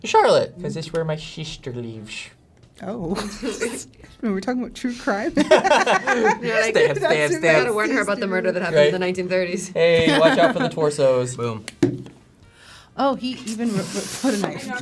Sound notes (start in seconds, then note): 5.3 laugh